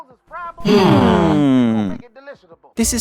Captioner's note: hmmmmmmmmm